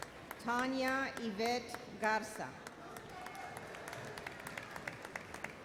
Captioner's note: audience applauds